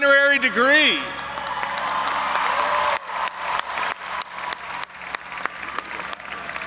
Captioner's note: audience applauding and cheering